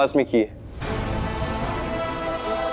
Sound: emotional vocalising

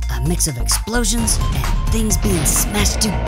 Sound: explosion

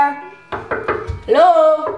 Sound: hand knocking

